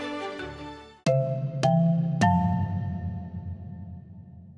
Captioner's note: low chimes